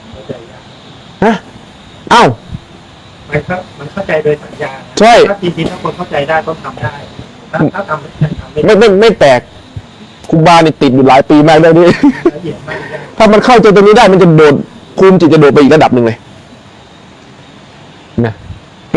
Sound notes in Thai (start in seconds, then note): 11.6 เสียงหัวเราะ